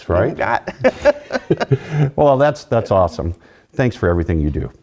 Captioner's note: laugh